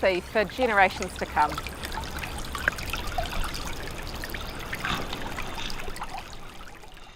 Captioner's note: flowing water